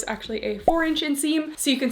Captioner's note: graphics beeping